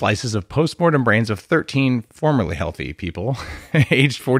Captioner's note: chuckles